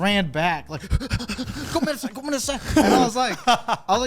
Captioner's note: panting; speaks Japanese